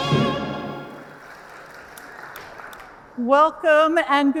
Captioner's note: audience applauding